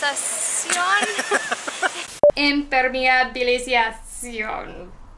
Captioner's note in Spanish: hablando como un robot